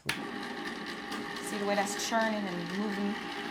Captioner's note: machine whirring